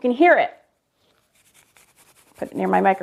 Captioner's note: brush scratching